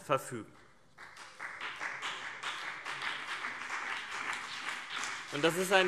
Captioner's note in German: Beifall BÜNDNIS 90/DIE GRÜNEN und vereinzelt CDU